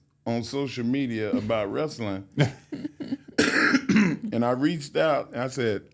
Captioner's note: coughs